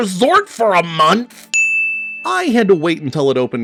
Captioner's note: dings